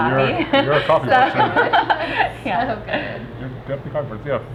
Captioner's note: laughs